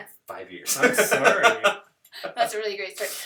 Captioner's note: laughter